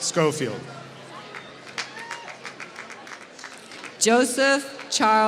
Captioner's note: applause